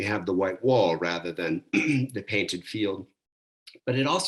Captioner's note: coughs